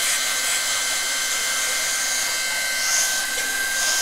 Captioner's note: machine noise